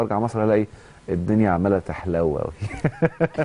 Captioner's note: laughter